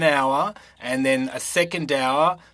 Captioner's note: speaking French